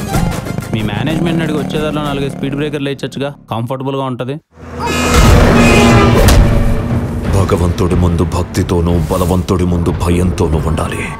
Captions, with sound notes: Ask your management to put couple of speed breakers, It would add up tot the comfort. [vehicle honks] We must stay devoted before God and with fear before a strong person.